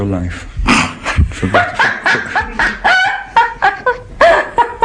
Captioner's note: laughter